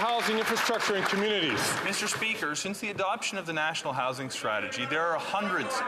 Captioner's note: some Applause